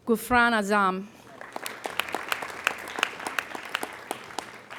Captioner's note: applauding